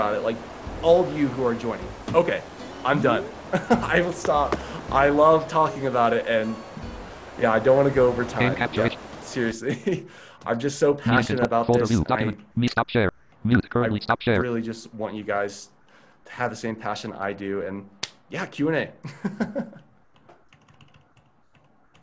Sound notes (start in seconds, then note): 13.5 computer Voice; 19.0 laughs